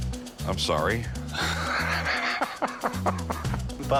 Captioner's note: laughs